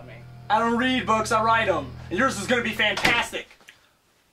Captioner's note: door shuts